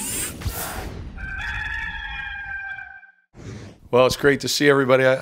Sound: rooster crowing

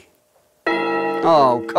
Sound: alarm starts

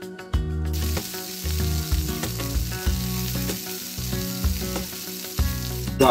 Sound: sizzling

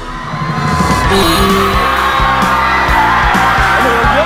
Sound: deafening scream

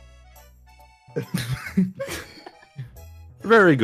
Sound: laughs

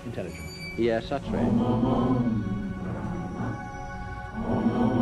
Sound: chanting

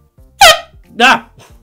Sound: airhorn

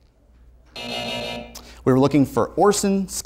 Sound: buzzer sounds

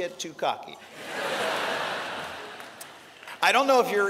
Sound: laughter

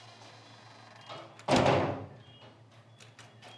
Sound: door closes

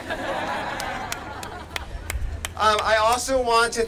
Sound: laughter

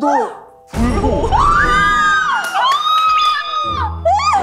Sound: squealing

